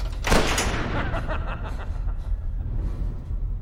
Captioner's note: evil laughter